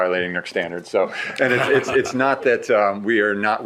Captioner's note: shared laughing